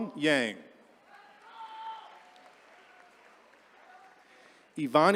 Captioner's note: attendees cheering